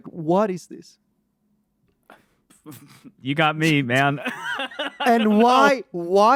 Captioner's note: laughs